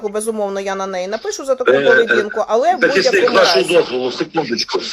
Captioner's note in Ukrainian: прочищення горла